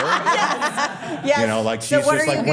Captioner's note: all laughing